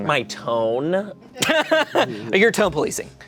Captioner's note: laughing